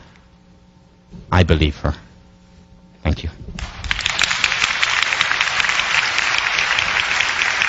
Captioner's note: applause